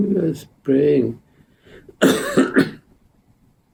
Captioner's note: coughing